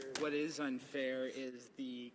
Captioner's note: some Applause